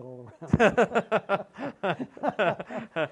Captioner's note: laughter